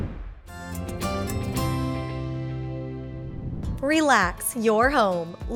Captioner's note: whoosh